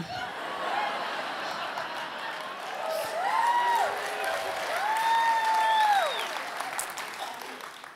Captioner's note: audience applause